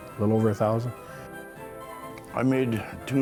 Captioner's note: breathe in